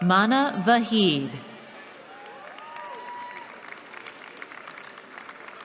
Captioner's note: cheering